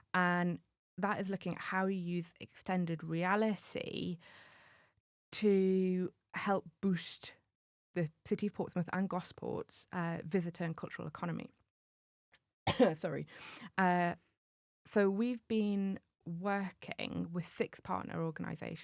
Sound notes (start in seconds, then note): 12.6 cough